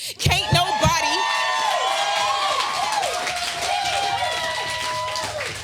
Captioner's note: audience applauding